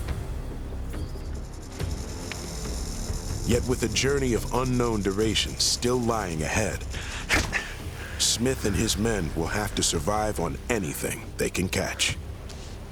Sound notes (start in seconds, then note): 0.6 rattling; 8.4 sticking, thudding sound